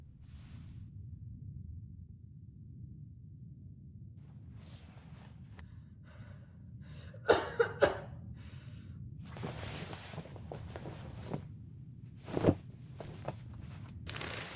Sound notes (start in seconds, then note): 7.0 heavy coughing